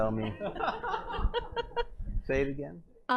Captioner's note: laughter